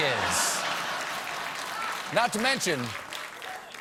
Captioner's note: applause; laughter